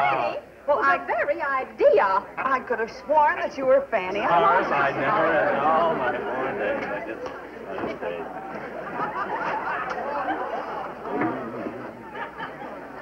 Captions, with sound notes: - Hey, the very idea. I could have sworn that you were Fanny. (laughter) (talking) (laughter)